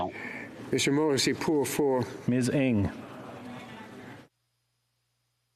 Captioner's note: speaking French